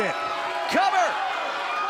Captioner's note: crowd cheering